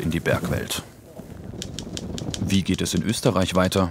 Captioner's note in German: Schreibmaschinengeräusche